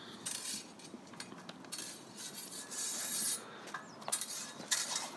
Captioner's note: swords scraping